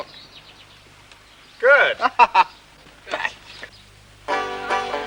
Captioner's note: laughing